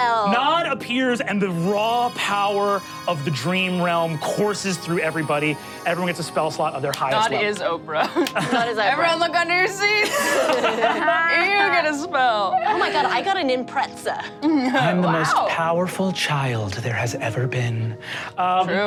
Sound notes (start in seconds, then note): 10.0 laughs